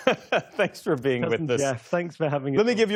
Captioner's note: laughter